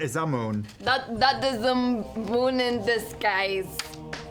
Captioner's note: accented; dice hitting the floor